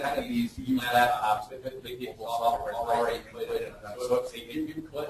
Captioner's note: distorted speech